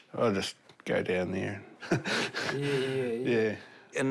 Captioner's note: chuckles